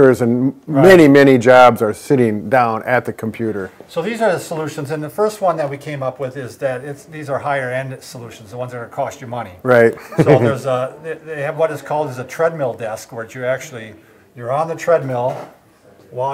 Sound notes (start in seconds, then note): 9.9 chuckles